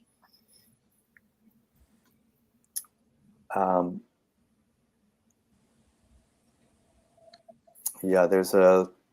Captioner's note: silence